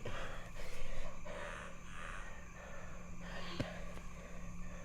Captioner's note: Dogmouth gasping